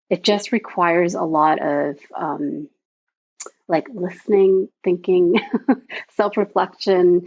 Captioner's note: chuckles